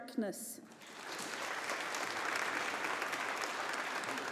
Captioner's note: audience applauding